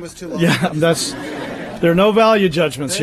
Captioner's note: laughter